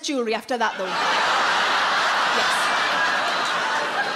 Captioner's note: audience laughs